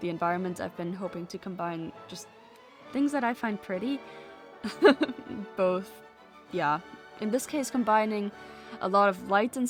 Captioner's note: laughs